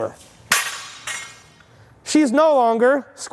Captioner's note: weight bar dropping